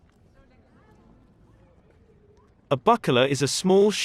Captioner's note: people chattering